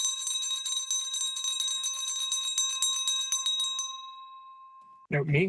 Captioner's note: bell ringing